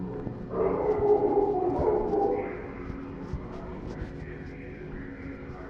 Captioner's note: barking